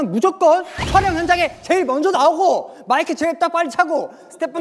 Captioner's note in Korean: 열변